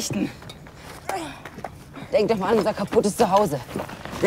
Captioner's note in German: Kurt ächzt